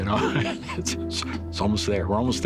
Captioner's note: laughs